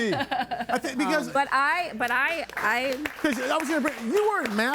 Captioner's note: audience applauding